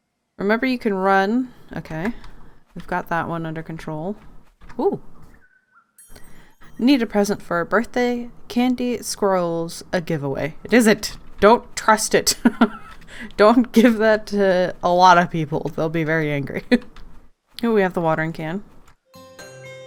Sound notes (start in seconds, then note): 12.4 laughs